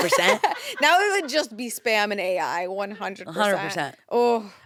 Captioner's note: laughs